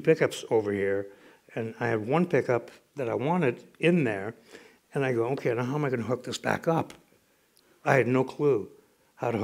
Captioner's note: none